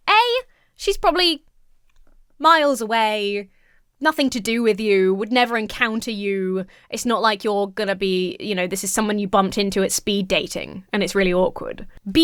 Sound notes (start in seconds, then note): none